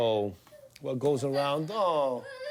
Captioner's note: baby crying